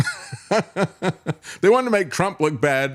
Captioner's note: laughter